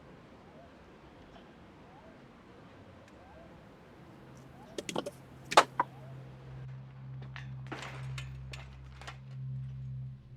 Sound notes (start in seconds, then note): 4.7 tin clatters